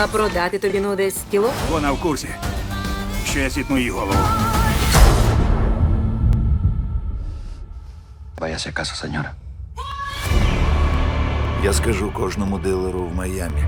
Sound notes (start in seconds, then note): 0.2 in English; 4.9 muffled gunshot; 8.2 man 2 in Spanish; 11.5 man 3 in English